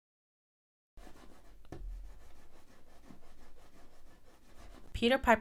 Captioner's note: scratching noise in background